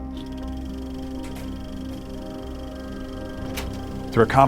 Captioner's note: film rolling